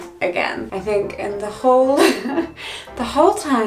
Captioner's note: giggles